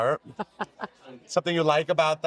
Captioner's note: Amber chuckling